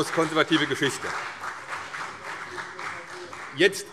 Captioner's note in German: Beifall CDU - Zurufe